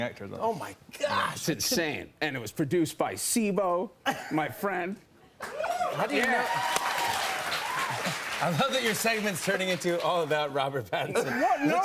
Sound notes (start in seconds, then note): 5.4 cheers and applause